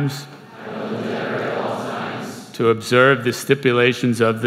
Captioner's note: crowd